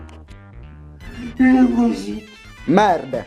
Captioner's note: autistic tone